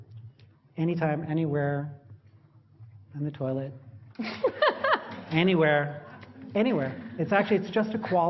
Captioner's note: laughter; 笑聲